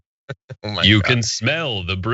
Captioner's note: laugh